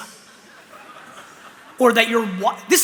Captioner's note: laughter